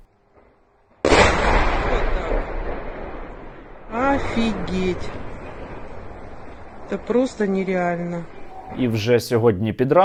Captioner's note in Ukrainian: вибух